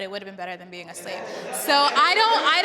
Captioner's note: panelists indistinctly chattering